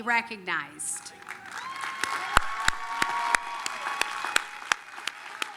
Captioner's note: applause, cheering